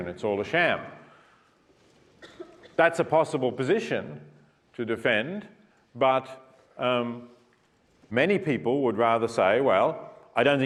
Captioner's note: cough